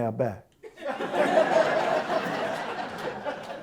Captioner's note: audience Laughter